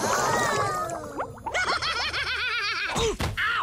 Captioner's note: Duncan laughing